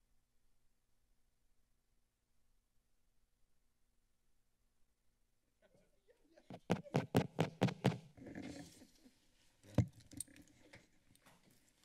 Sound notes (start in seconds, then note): 0.0 silence; 6.5 hits the microphone; 8.2 silence